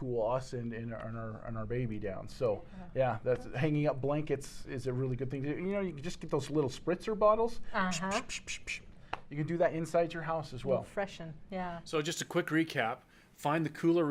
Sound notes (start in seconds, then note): 8.1 squirt sound